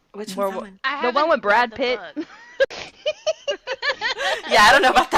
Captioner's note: laughing